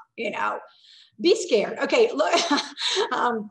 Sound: laughing

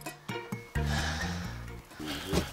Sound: sigh

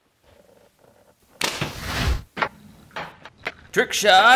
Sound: thwack

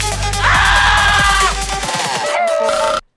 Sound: screaming; howling

